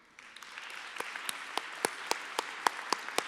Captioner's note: applause